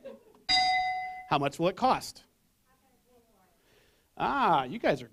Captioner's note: bell